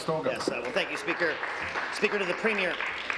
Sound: applause

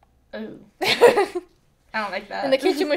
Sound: laughs

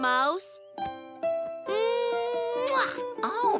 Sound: big kiss; giggles

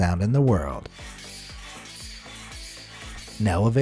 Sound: nails scratching

